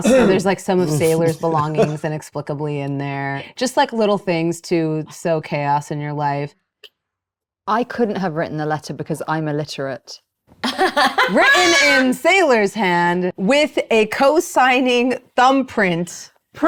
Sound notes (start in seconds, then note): 11.1 laughing